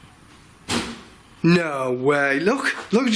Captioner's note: thud